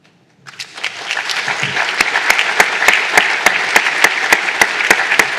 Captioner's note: applause